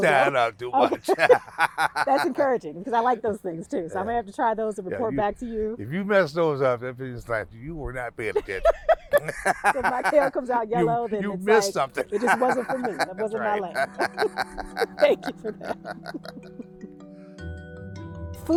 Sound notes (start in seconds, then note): 0.0 laughing; 14.9 both laughing; 16.9 serene music